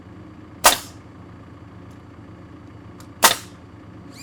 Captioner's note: nail gun shooting